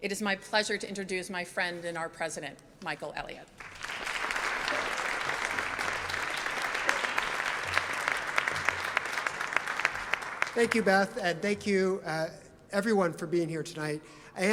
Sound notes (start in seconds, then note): 3.6 audience applauds